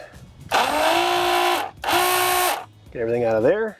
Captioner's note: pump roaring